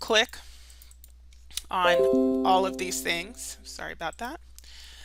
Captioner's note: notification jingles